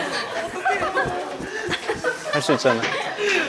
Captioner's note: flapping